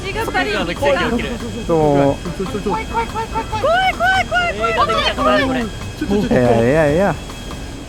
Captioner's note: crowd continues to fear